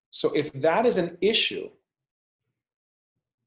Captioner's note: none